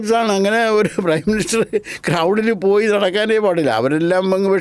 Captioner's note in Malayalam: പൊട്ടിച്ചിരി